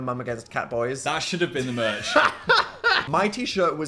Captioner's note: Phil laughs; Dan laughs; laughs